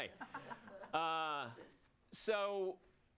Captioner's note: audience laughs